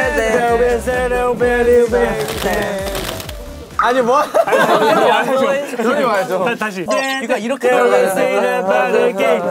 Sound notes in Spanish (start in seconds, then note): 2.2 Aleteo de piernas